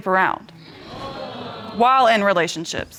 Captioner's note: audience exclaiming